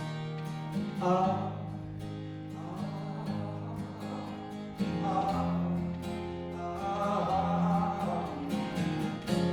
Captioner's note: humming